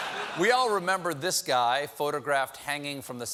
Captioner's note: laughter